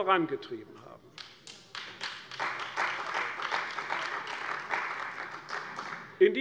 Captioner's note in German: Beifall bei der CDU